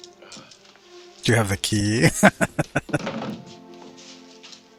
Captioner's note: laughing